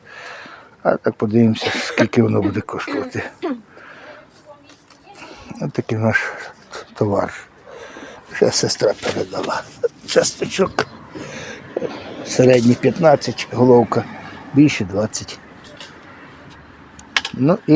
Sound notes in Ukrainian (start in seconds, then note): 0.0 сміх; 7.5 сопіння